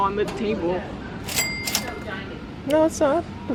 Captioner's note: cash register rings